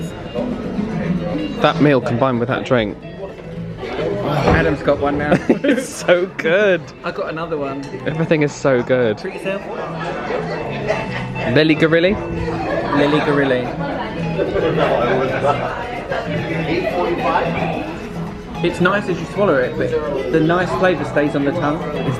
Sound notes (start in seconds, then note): 5.2 both laugh